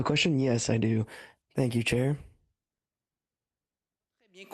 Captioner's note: speaking French